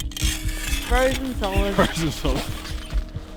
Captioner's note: laughs